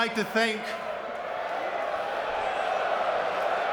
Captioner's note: audience cheering